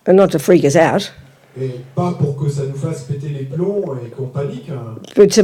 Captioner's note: French